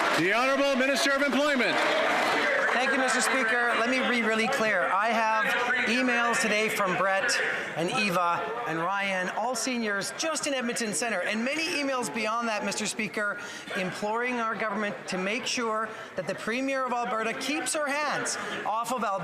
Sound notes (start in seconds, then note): 4.2 applause